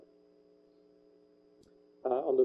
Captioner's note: pause